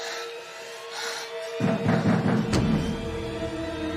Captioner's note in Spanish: Toques en la puerta